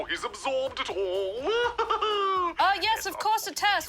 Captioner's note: laughs